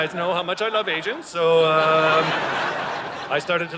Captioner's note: audience laughing